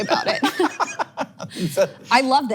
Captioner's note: laughs